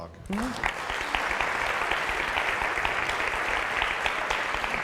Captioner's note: audience applauding